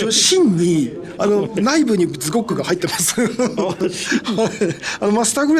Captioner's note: laughs